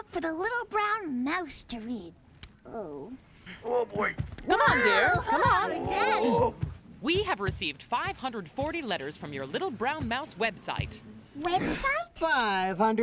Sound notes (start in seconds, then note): 2.2 disappointedly; 3.6 straining